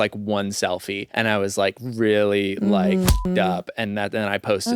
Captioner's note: beep